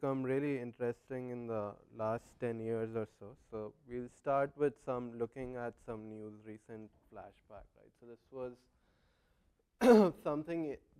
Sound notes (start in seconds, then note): 9.8 cough